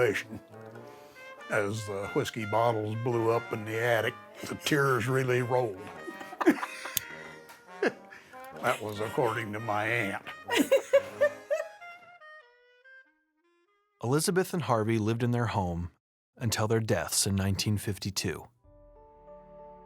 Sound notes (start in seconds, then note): 8.1 laughs; 12.7 laughs